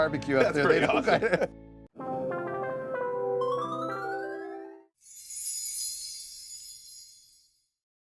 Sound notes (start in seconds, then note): 2.1 electronic music; 5.0 bell sounds